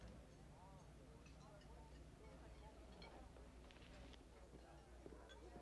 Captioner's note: customers chattering